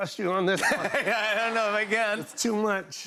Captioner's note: laughter